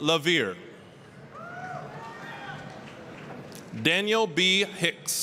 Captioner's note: applause, cheering